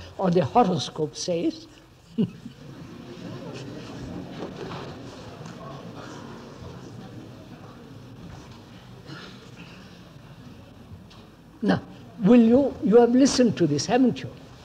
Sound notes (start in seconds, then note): 2.1 laughs; 5.1 laughter